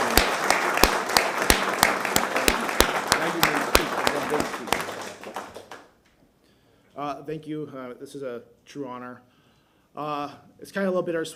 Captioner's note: applause